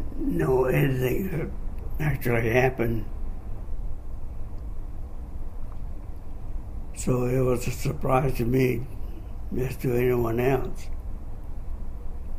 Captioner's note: coughs